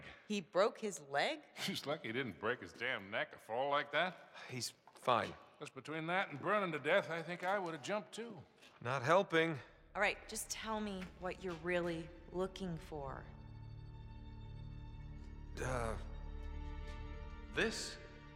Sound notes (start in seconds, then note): 1.5 laughing